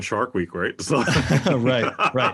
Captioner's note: laugh